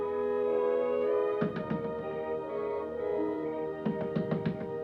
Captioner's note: hand banging